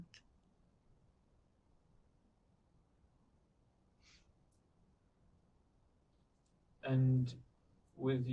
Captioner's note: pauses 6 seconds